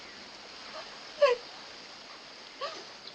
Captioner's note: sobbing